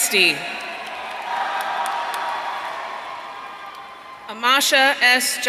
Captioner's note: audience cheering